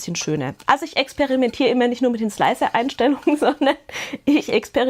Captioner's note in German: gelächter